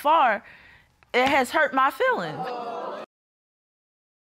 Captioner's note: audience exclaims